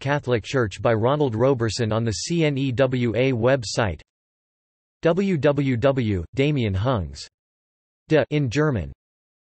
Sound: in German

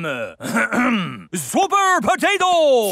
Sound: clears throat

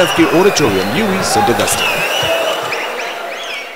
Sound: wild applause and cheering for 22 seconds

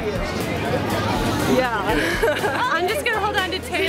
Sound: laughs

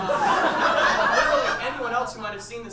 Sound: audience laughs

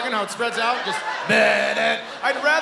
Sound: imitating Theme

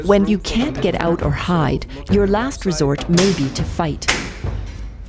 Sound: gunshot

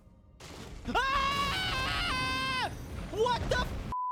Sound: screaming

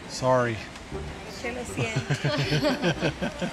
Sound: chuckles

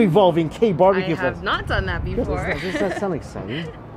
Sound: laughs

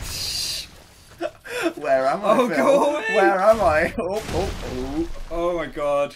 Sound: laughs

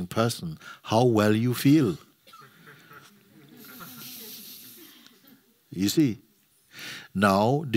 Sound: soft laughter

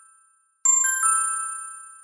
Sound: ding!

